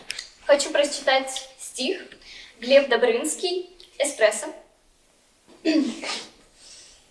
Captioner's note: speaks Russian